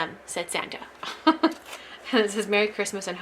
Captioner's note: laughs